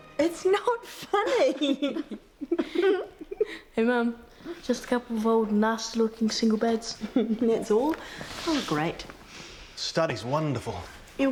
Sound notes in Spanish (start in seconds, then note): 0.9 riendo